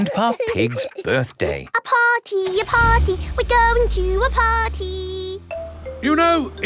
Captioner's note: giggling; sing song voice